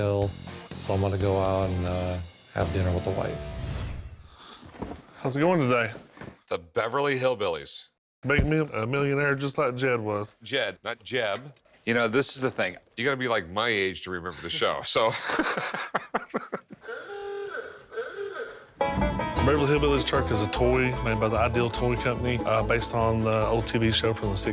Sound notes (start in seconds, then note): 15.0 both laugh; 16.5 car horn honking